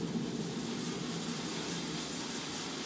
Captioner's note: rhythmic clicking